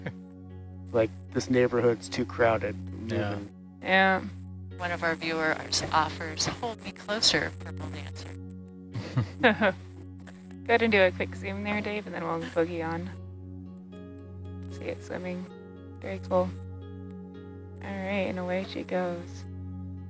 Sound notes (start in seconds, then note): 0.2 diver 5 laughs; 8.9 divers laugh